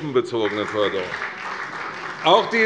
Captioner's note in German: Beifall bei der CDU und dem BÜNDNIS 90/DIE GRÜNEN